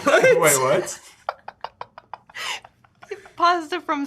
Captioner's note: Sean laughs